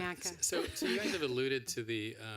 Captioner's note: laughter